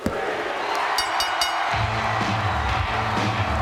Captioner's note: bell rings; upbeat rock music